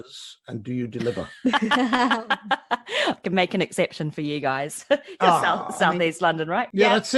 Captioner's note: laughs